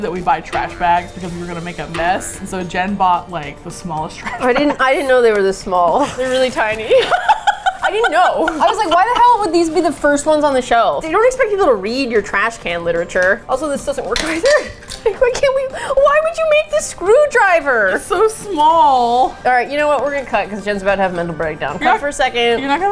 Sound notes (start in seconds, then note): 4.2 laughs; 6.7 laughs; 7.7 playfully defensive; 14.5 faux sobbing